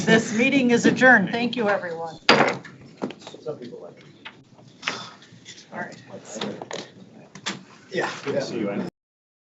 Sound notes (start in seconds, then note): 2.4 gavel banging